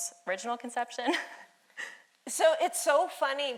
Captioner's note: laughing